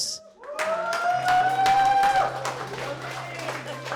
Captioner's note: crowd cheering